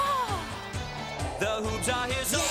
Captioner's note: exclaims